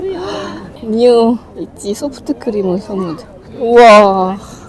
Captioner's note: laughs